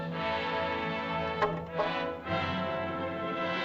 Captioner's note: suspenseful music; staff clatters; suspenseful music